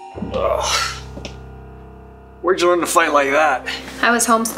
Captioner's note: heads cracking; groans